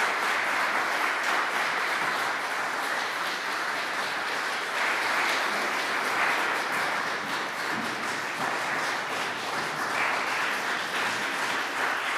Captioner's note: applause